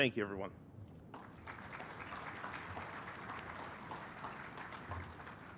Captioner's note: applause